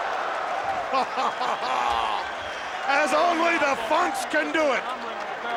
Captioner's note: laugh